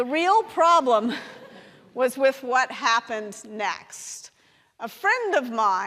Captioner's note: laughs